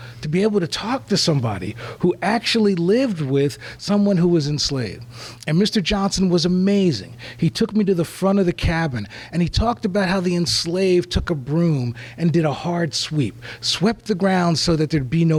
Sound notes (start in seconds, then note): none